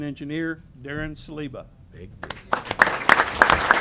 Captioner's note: applause